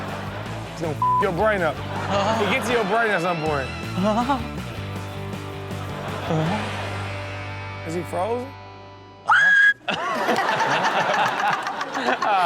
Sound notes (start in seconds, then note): 0.0 audience laughs; 5.6 audience laughs; 9.2 high pitched screaming; 9.8 everyone laughs